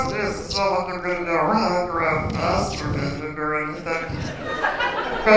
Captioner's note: laughter